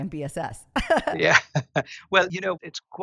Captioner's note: laugh